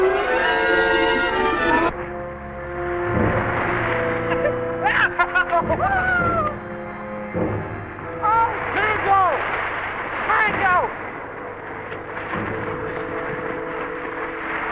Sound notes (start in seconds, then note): 2.1 Jack cheering; 2.1 Pete laughing